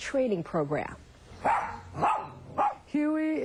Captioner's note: dog barking